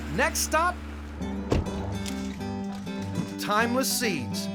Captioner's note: door closes